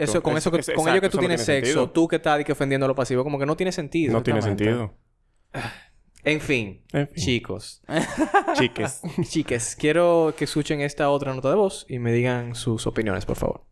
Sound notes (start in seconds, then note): 5.5 sigh; 7.9 laughs